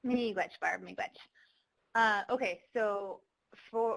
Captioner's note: speaking foreign language